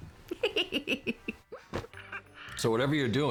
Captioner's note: giggling